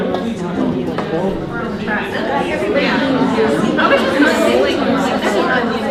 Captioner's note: participants talking at once